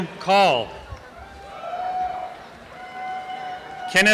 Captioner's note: applause and cheering